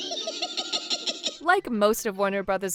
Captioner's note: witch cackling